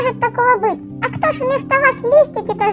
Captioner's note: cartoon voice